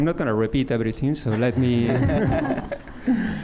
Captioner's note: laughter